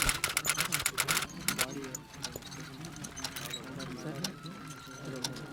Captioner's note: crowd murmuring indistinctly